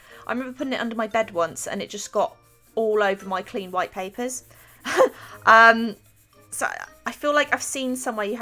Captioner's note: laughs